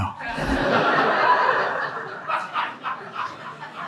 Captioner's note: audience laughing